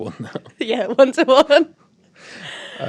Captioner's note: laughing